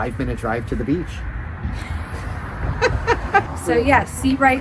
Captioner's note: laughs